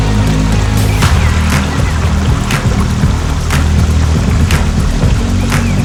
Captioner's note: car speed